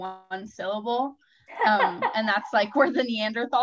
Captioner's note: laughing